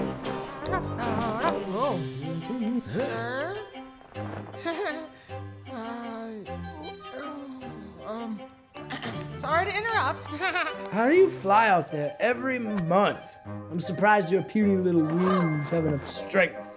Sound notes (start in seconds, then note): 0.5 startles; 5.4 stammers awkwardly; 8.9 clears throat